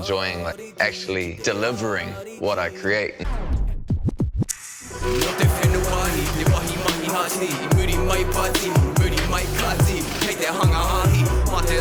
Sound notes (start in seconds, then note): 3.2 record scratches